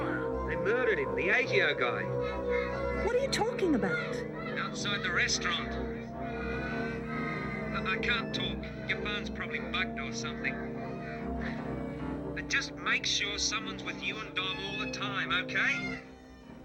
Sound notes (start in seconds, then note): 2.6 kids clamoring; 6.2 children singing